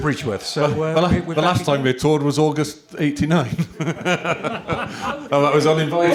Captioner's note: laughter